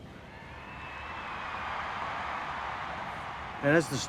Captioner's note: crowd cheers